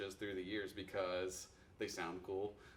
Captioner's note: none